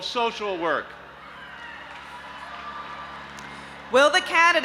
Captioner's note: audience applauding and cheering